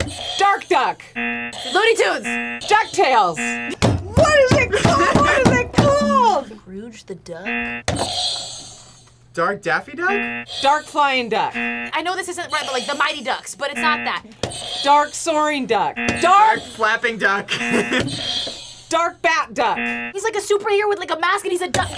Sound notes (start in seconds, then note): 1.1 buzzer rings; 7.4 buzzer rings; 11.4 buzzer rings; 15.8 buzzer rings; 17.4 laughs; 19.6 buzzer rings